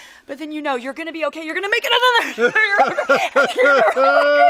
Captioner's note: Sam laughs